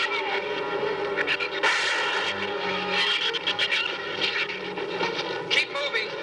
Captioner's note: gunshot